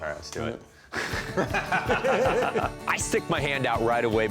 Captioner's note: laugh